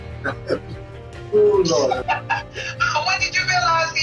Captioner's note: William Laughs; Terri Laughs in background